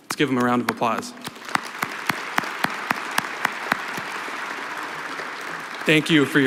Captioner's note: applause